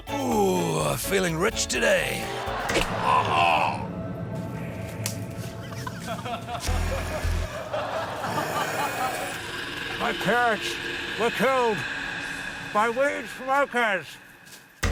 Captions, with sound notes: - Oooooh, feeling rich today. (LAUGHTER) - (YELPS) (DRAMATIC MUSIC) - (GROWLS SOFTLY) My parents were killed... by weed smokers.